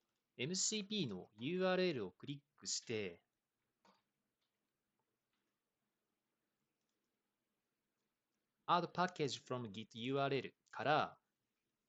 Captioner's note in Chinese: 六秒停顿; 七秒停顿